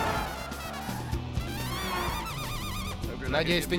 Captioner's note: tires screeching